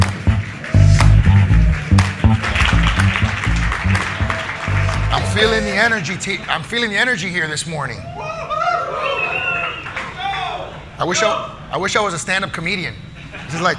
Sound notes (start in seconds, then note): 3.2 audience applauding